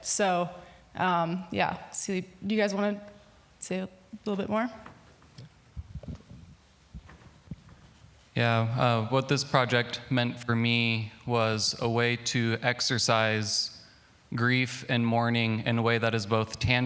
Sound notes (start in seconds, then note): none